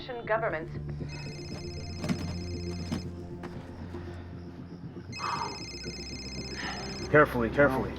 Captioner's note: phone Ringing